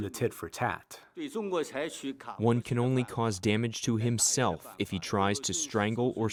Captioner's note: through translator